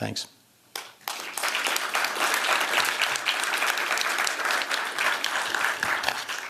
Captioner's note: applause